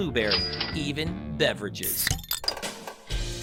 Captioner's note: bottle cap opening; upbeat music playing